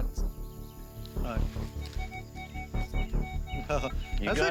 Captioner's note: metal detector beeping